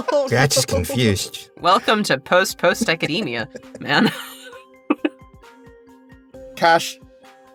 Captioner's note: chuckles